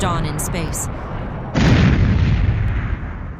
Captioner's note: explosions